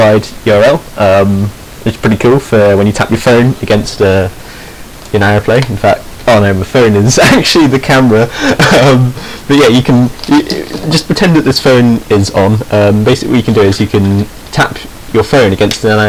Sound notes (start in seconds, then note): 8.2 he snickers